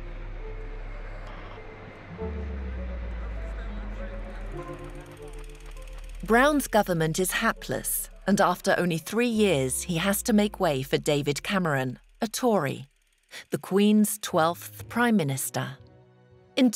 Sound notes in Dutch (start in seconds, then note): 6.0 projector zoemt; 14.4 langzame muziek